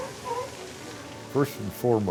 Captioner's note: seal barking